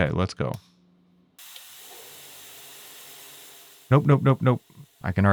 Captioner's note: machinery whirring